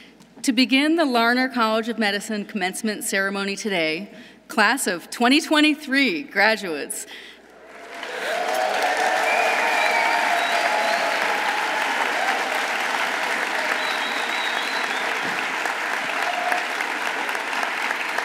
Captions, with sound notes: To begin the Larner College of Medicine commencement ceremony today, class of 2023 graduates. -(audience cheering) -(audience applauding)